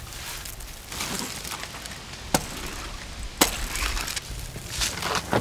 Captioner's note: coating clattering